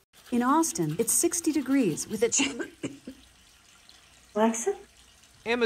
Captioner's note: coughing